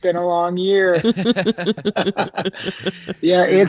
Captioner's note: all laughing